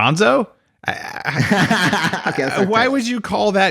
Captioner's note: laughs